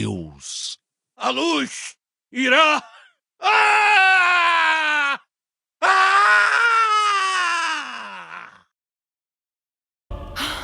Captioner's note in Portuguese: grito; choro